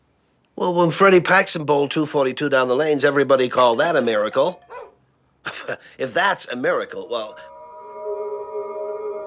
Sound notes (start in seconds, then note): 3.6 clatter; 4.6 barking